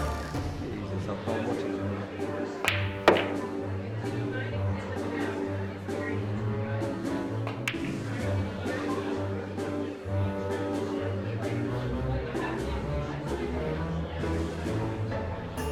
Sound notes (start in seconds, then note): 2.8 people chattering faintly